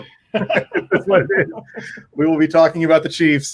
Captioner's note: both laugh